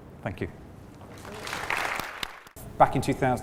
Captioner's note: applause